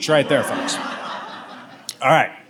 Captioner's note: audience laughs